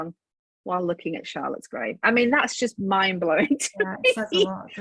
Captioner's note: laughs